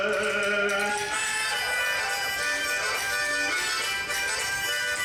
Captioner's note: audience cheers